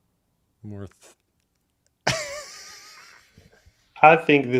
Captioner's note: laughs